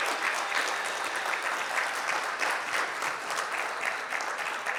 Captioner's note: audience clapping